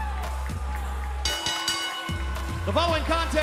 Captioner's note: bell ringing